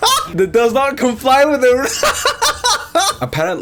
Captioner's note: wheezes and laughs; laughs